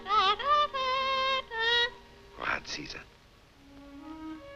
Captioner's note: parrot humming